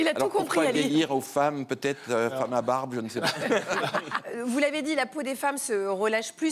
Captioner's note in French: rires